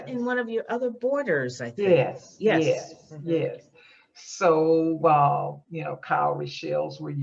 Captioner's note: none